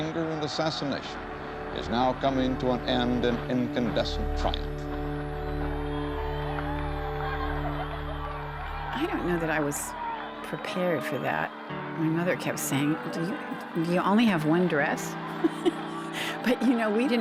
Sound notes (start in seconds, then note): 5.5 cheers and applause; 15.3 chuckling